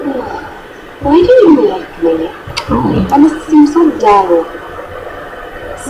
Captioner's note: sighs